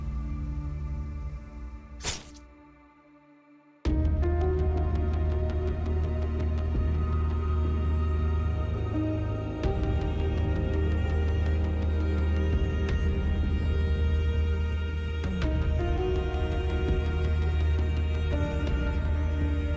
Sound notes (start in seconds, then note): 2.0 sword thudding; 4.9 mellow orchestral music